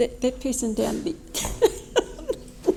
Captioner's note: laughs